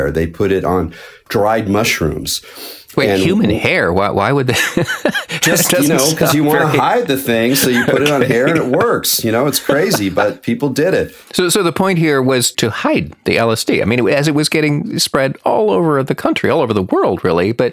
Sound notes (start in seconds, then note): 4.5 laughing